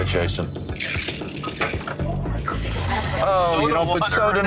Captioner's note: ice rattling